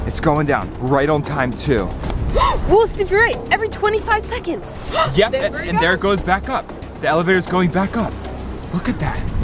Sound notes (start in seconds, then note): 2.2 gasps; 4.8 gasps